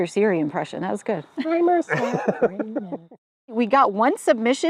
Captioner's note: laughs